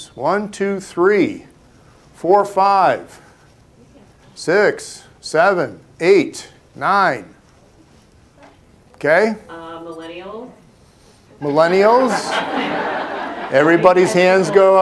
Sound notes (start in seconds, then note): 11.4 laughter